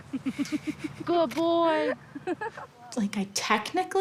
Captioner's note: couple laugh